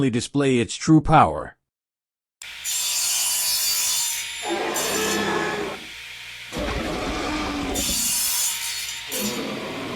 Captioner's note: sound effect